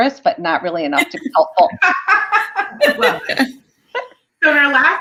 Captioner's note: laughter